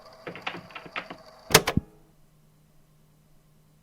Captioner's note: door opens; click